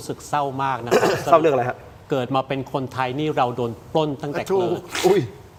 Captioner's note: clears throat